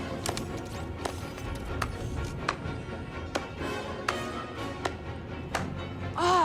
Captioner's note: slow clapping